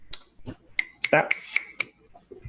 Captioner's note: snapping